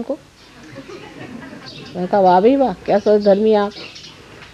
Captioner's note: laugh